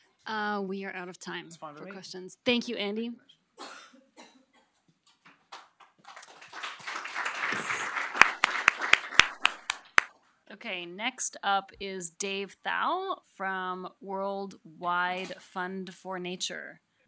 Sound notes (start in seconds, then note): 5.4 applause